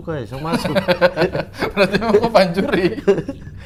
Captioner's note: giggling